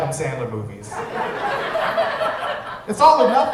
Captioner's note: audience chuckles